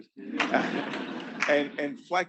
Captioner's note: students laughing